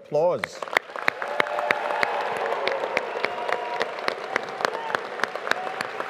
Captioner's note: audience applauding; audience cheering